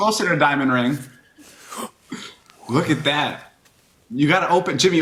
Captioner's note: gasps